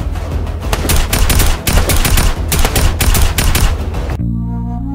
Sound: intense tactical assault rifle shooting

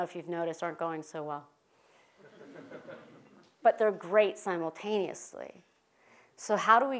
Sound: laugh

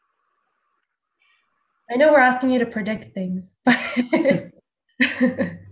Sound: laughs

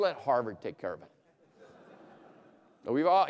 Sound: laughter

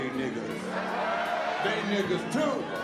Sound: audience cheers

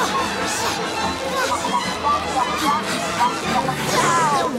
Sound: indistinct chatter

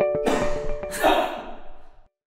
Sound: coughing

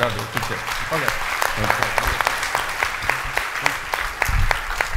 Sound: clapping

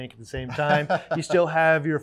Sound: laughs

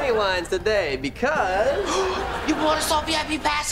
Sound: gasping

